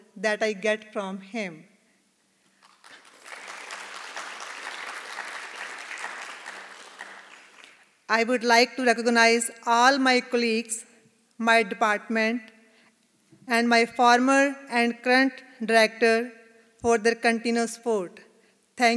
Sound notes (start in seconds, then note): 2.6 audience applauding